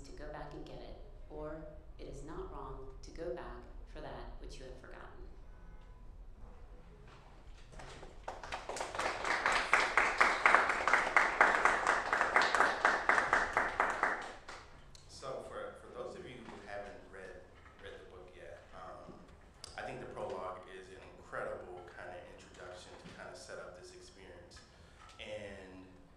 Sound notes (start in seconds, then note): 14.7 applause